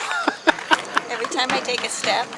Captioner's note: laughs